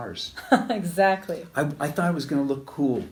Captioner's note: laughs